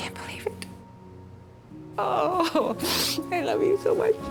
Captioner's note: sobs